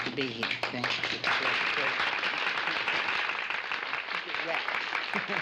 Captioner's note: audience clapping